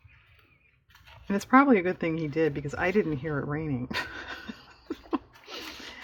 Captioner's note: laughs